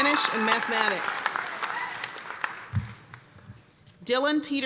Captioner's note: applause